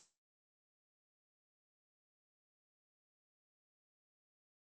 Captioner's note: long pause